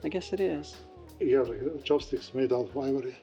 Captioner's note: speaking italian